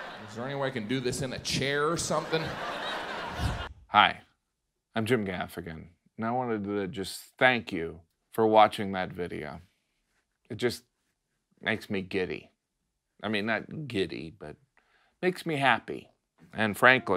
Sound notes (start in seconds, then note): 0.0 audience laughs; 3.4 air whooshes